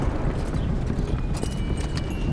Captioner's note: wagon moving